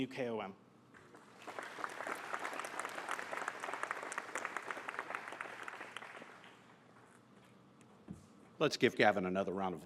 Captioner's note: applause